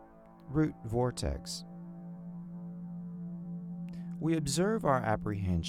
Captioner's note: tone reverberating